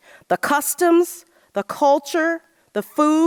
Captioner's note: none